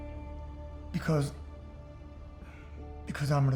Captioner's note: says emotionally